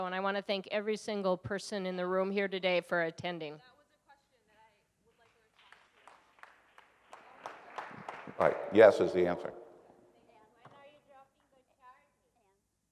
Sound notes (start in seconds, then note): 5.1 applause